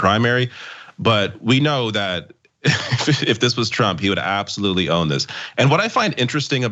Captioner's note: laugh